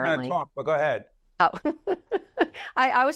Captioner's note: laughs